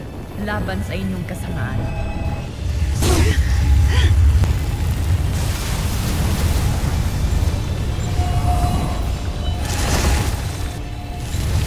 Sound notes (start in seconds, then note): 3.0 energy blast-crackle; 3.8 groans; 4.4 grunts; 5.5 sparkling whoosh, energy swirling; 6.5 SPARKLING WHOOSH,</i> ENCHANTING CHIMES